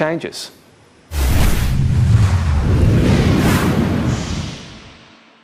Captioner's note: dramatic whooshing